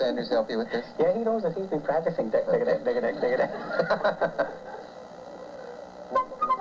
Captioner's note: laughter